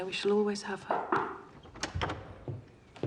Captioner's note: knocking at door